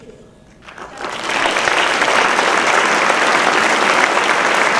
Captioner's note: applause